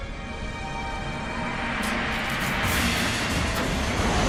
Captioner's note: none